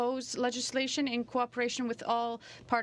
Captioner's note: speaking in french